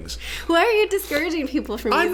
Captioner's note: laughing